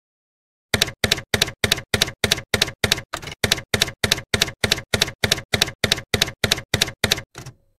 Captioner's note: typewriter keys clacking